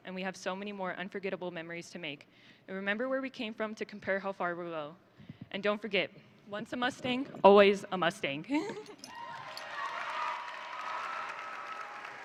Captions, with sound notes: And we have so many more unforgettable memories to make, and remember where we came from to compare how far we go. And don't forget, once a Mustang, always a Mustang. (laughs) (audience cheering)